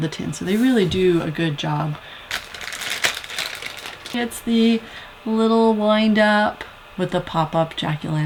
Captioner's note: opening plastic bag